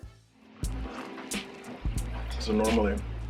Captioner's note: man sipping